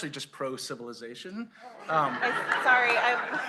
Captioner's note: laughter